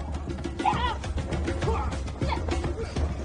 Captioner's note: actors grunting